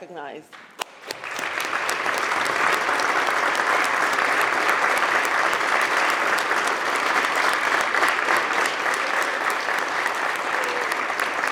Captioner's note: applause